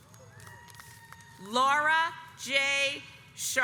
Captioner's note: audience applauds